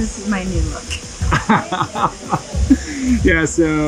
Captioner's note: laughs